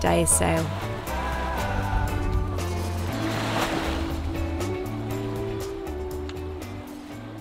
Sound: groovy music; waves crashing

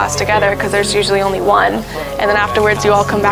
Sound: crowd chatter

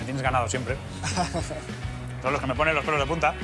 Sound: laughs

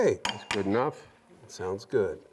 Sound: metal clanks

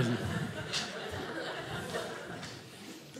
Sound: audience laughing

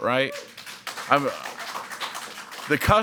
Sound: audience applauding

